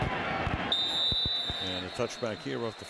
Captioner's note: whistle